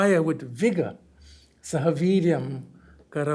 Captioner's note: hindi